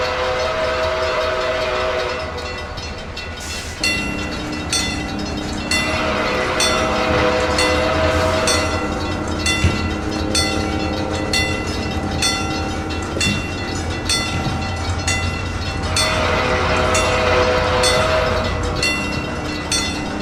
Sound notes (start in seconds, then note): 3.7 C&O Greenbrier whistle, wig wag ringing; 9.6 wig wag ringing; 15.7 C&O Greenbrier whistle